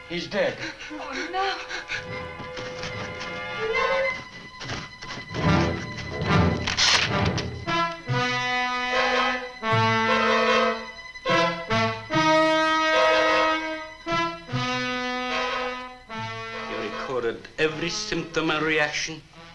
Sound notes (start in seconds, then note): 2.0 muffled scratching